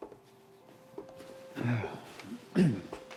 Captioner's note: Hatfield sighs